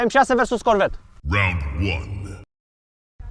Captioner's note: deep voice